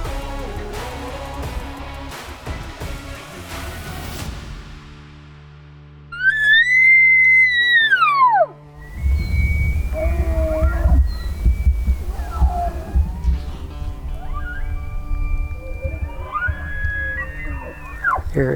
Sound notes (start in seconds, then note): 4.2 gentle music; 10.0 elk bugling; 14.4 elk bugling; 14.4 gentle music continues